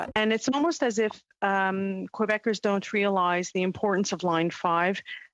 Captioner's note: speaking French